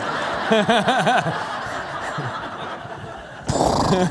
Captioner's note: laughter